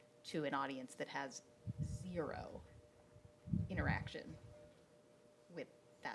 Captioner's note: none